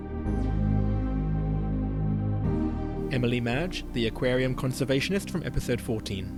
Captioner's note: voiceover